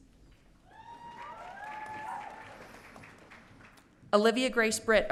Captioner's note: audience cheering